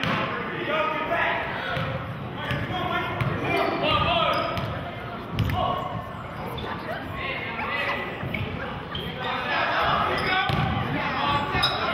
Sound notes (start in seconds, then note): 0.9 yelling